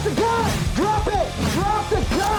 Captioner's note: whooshing